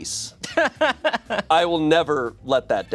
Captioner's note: laughs